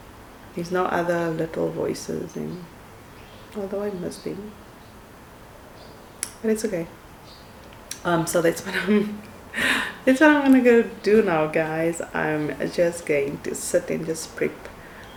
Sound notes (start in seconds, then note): 8.7 scoffs